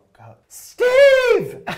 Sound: shouting

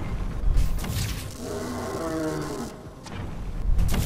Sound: throaty roaring sound

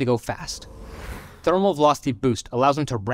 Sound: car vrooming

